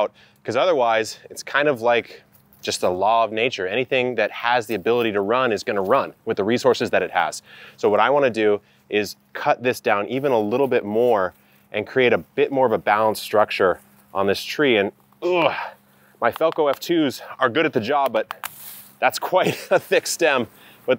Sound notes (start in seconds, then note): 15.2 groans